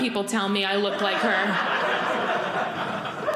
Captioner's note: audience laughing